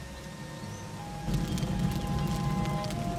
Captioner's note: fire roaring